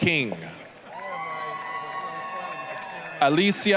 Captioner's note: applause, cheering